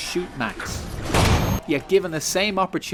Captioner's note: bang